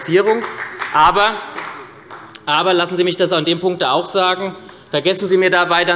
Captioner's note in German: Beifall bei der SPD